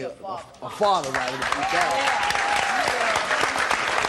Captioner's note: applause